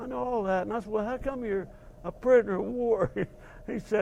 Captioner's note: laugh